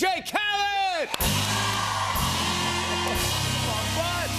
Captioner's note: cheers and applause